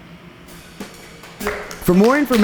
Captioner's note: attendees applauding; upbeat music